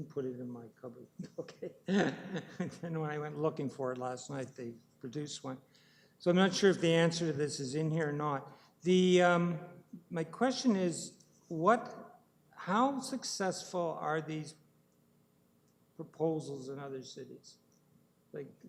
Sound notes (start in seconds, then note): 1.2 laughing